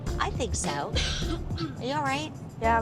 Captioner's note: coughing